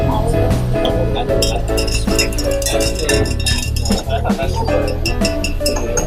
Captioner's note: glass stirring in water